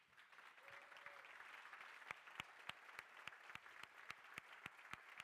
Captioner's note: crowd cheering and applauding